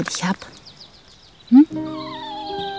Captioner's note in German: Winseln